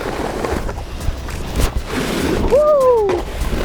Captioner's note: wind hisses; shouts